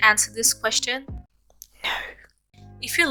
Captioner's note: whispers